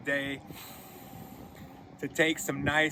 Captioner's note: breathing deeply